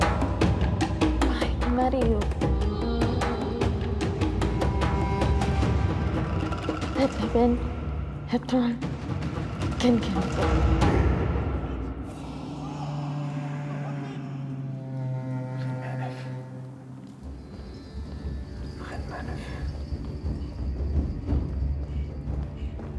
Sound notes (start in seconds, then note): 0.1 speaking in foreign language; 12.1 men shouting; 14.5 speaking in foreign language; 20.0 dramatic music